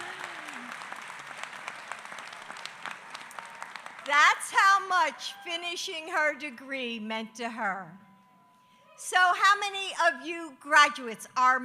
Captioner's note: applause